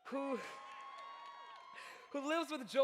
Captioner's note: audience cheers